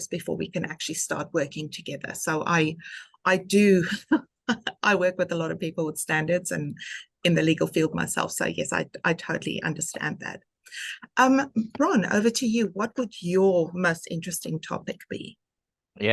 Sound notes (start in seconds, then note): 2.8 laughing